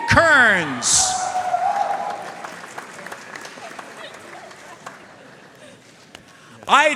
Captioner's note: audience cheering and applauding